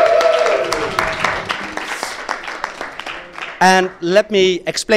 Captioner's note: applause